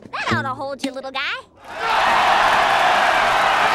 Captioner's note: cheering